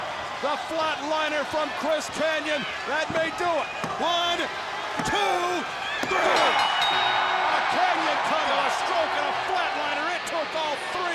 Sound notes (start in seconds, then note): 4.4 bell ringing; 8.9 crowd cheering